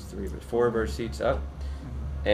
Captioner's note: background talking